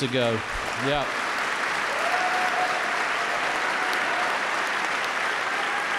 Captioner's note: audience applauding